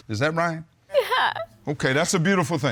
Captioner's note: sobbing